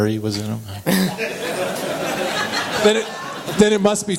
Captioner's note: laughter